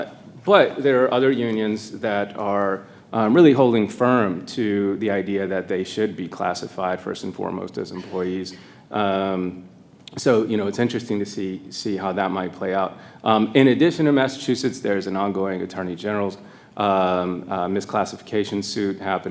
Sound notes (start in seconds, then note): 7.8 attendee coughing